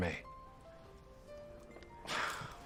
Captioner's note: sighs